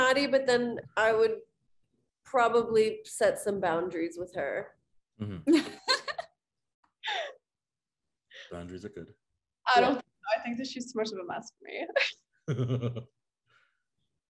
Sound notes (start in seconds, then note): 5.4 woman laughing; 11.9 woman giggling; 12.5 giggling